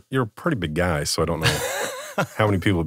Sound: laughs

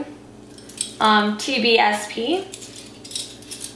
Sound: handshake

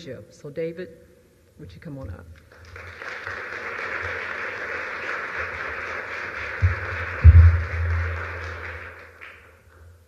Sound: applause

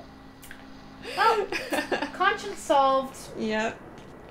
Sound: laughter

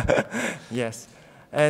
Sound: laughing

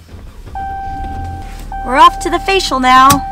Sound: engine starting; dinging

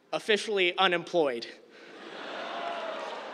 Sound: laughter

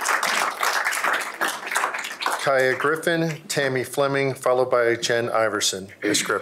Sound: applause

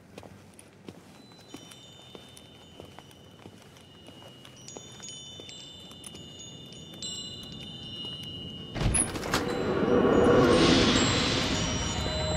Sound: wind chimes

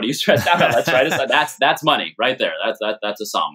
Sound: laughter

